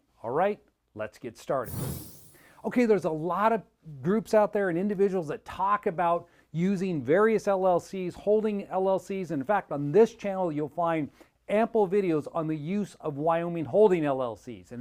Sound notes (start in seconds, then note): 1.6 screen whooshing